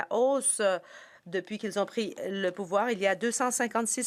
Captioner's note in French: voix de l'interprète